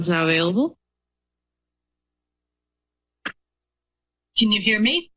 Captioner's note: silence